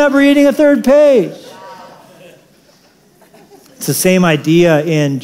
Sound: laughter

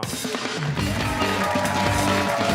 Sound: cheers and applause

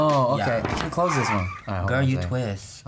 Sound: brakes screech

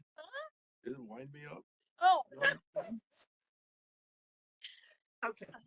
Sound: laughing

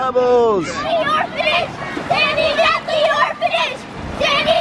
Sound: chanting

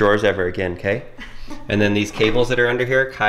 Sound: laughing

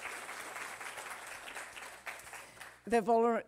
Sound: applause

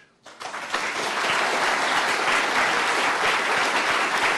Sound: crowd applauds

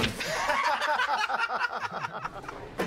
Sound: laughter

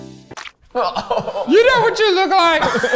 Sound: laughs

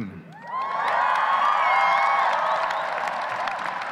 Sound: audience cheers

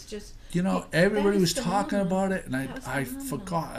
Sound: voiceover

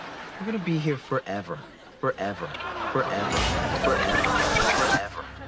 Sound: ”forever” echoing, laugh track

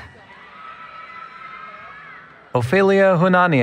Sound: cheering

